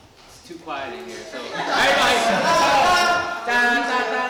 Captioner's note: laughter